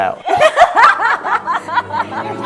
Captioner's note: laughs